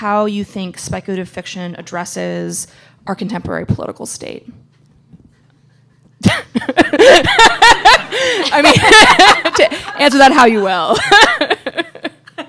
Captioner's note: laughter